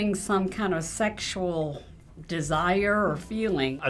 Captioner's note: none